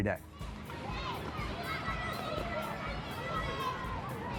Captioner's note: kids shouting and chattering